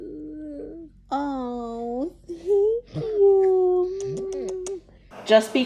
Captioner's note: smooching